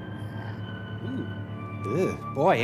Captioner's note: groans